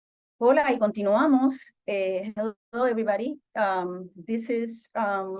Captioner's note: speaking Spanish